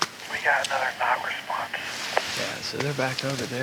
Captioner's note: over walkie